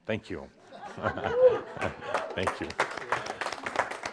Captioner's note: audience applause